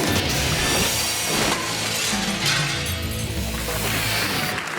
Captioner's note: upbeat instrumental music; screen swooshes; glass shatters; screen swooshes; crowd applauds